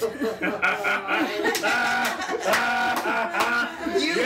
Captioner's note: laughing